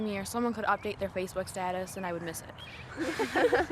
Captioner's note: laughs